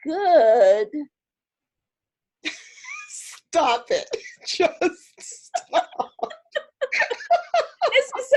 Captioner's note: laughter